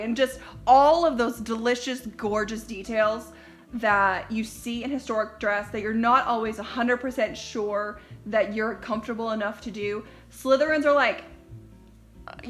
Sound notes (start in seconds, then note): none